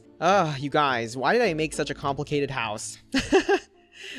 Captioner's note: laughs